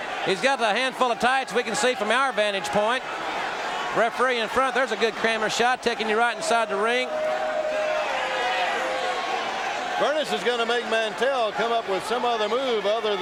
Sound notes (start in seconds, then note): 7.6 audience cheering